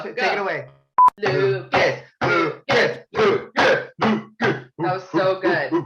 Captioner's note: producers cheering